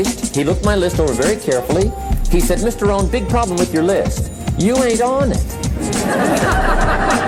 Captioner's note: laughter